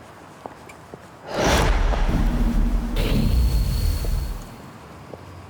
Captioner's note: wind whooshes